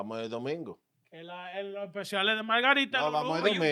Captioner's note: speaking In Foreign Language